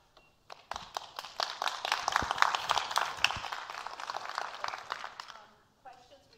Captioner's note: applause